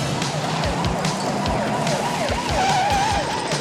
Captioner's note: sirens sounding